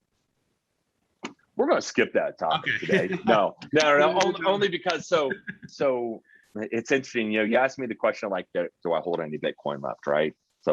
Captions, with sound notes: we're gonna skip that topic-- - Okay (chuckling)-- - No, only because, so it's interesting, you asked me the question of like, do I hold any Bitcoin left, right?